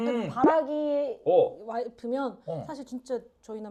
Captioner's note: haha